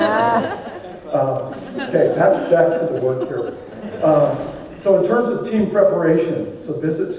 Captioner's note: audience laughs